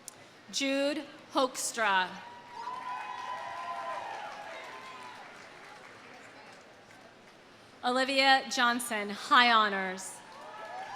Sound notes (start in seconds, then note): 2.3 audience cheering; 2.6 audience applauding